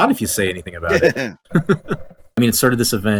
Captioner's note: laughs